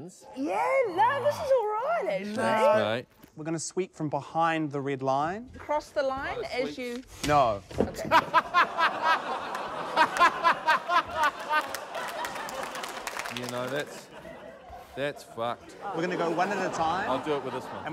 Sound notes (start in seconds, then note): 7.9 laughter; 8.1 laughs heartily